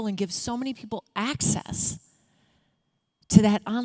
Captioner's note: none